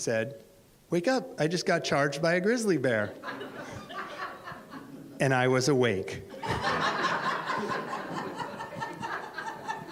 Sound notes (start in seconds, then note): 3.0 audience laughs; 6.3 audience laughs